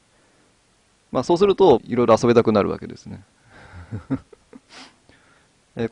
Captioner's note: laughs